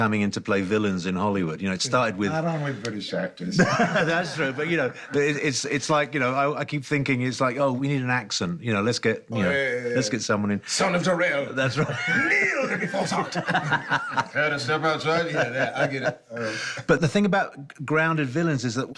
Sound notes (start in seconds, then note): 3.5 laughs; 11.7 laughter